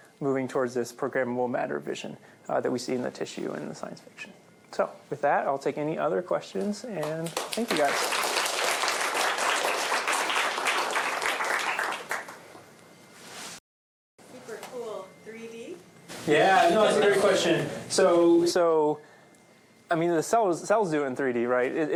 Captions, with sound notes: moving towards this programmable matter vision that we see in the tissue and the science fiction. So with that, I'll take any other questions. And thank you, guys. [APPLAUSE] Super cool, 3D? Yeah, no, that's a great question. So, I mean, the cells do it in 3D, right?